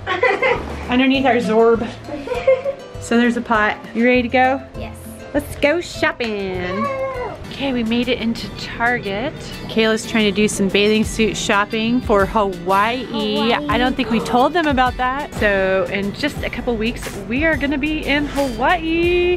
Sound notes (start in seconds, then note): 13.7 gasps